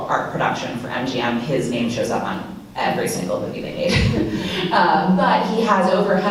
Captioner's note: laughs